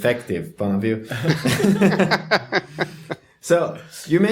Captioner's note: laughter